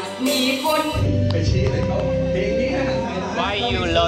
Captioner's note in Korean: 짝짝짝